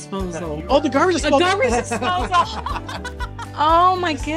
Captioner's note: laughter